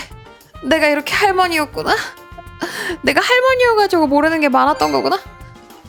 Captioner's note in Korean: 헉 소리